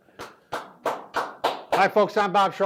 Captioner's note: claps